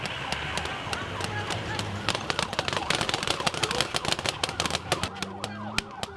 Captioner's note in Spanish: disparos de juguete